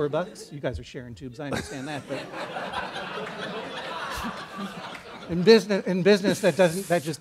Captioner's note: laughter